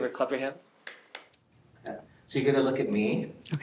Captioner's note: hands clapping